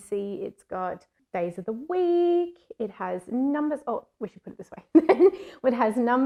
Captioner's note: laugh